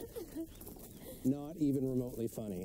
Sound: GT laughs

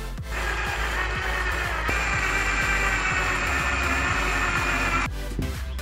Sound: drill

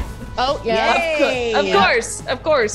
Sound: laugh

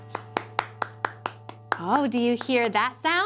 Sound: clapping

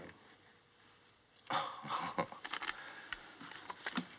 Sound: chuckles

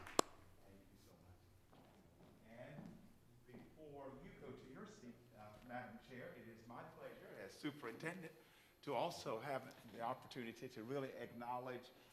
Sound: applause

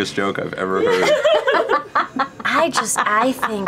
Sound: laughter

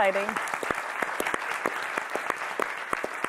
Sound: clapping

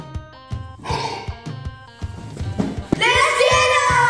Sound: Goo Goo Gaga sneezing; Santa gasps

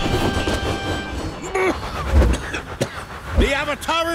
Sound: coughing

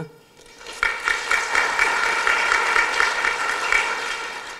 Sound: applause

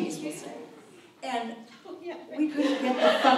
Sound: laughs

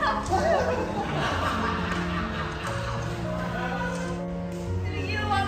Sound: laughing

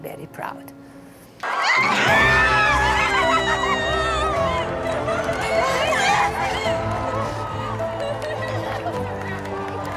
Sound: Cheers at Match Day

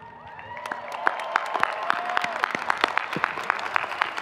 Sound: audience cheering

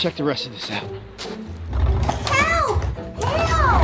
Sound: footsteps crunch in snow

